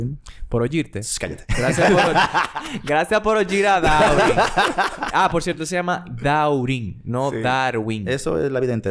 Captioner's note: laughs